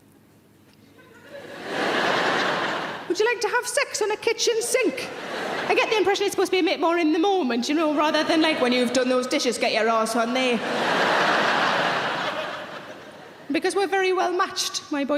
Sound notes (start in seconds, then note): 1.0 audience laughter; 10.8 audience laughter